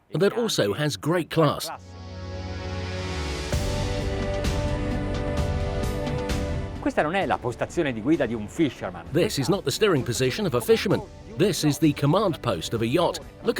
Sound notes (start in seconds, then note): 1.8 bright music; 7.0 speaking Italian